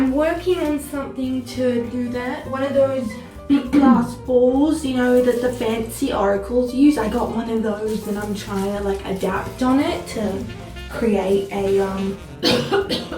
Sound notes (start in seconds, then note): 7.2 coughs